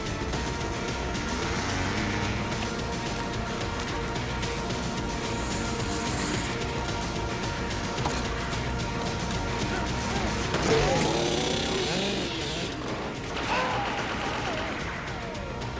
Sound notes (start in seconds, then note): 13.4 screams